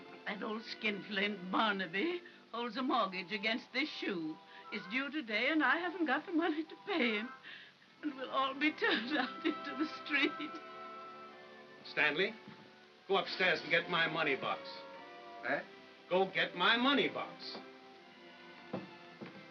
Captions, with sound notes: - That old skinflint Barnaby holds the mortgage against this shoe. It's due today, and I haven't got the money to pay him, and we'll all be turned out into the street! (sobbing) - Stanley... Go upstairs and get my money box. - Eh? - Go get my money box!